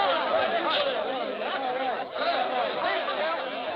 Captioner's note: overlapping chattering